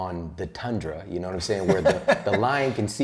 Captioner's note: laughter